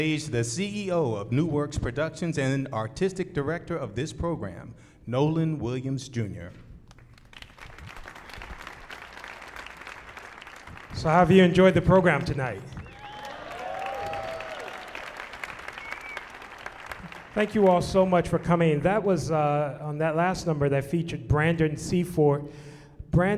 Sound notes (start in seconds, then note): 7.5 audience applauding; 12.6 audience applauding and shouting